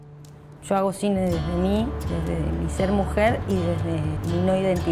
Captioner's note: city noises